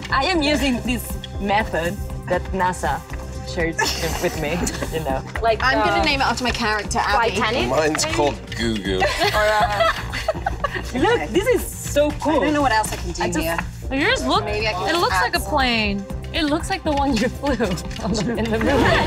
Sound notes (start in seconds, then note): 3.8 Gugu and Yun Jee laugh; 9.0 laughs